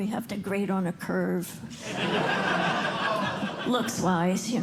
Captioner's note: laughter